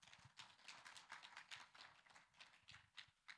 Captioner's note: applause